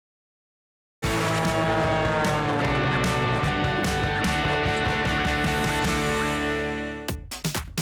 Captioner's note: energetic rock music; plane engine roars